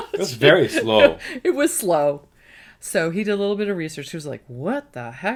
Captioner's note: laughs